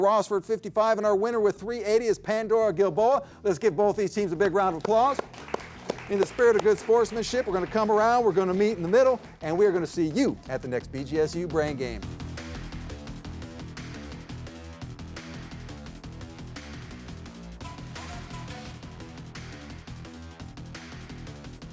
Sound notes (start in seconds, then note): 5.0 audience applauds; 12.2 upbeat music